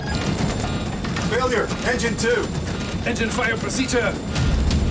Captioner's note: alert beeping